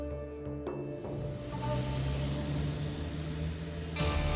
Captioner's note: motorcycles